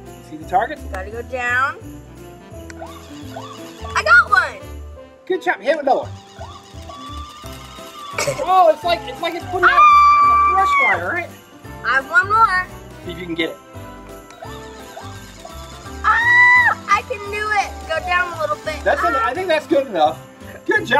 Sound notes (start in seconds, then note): 2.8 toy whirring; 6.1 toy siren blaring; 9.9 assistant screaming; 16.0 assistant screaming